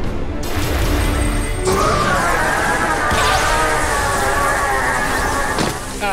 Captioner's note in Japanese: スルガトのうなり声